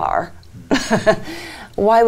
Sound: laughs

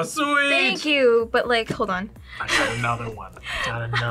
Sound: laughs

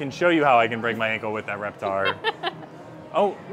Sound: laughs

